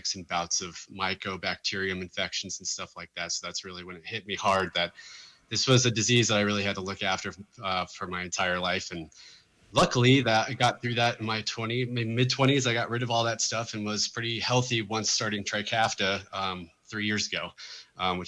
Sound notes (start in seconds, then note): none